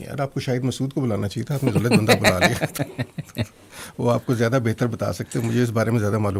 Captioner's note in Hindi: हंसी